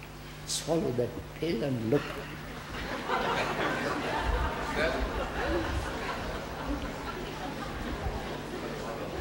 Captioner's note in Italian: risate